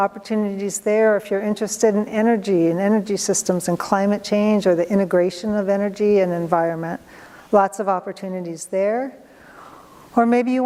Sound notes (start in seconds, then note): none